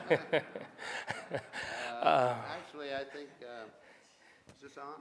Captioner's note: laughing